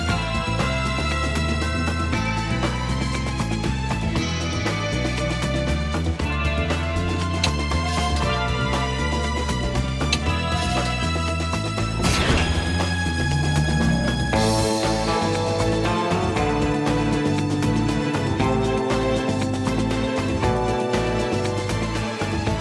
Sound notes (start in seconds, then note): 0.1 dramatic Type Music; 8.0 hatch opens; 15.0 dramatic Type Music